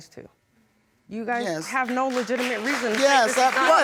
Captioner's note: audience clapping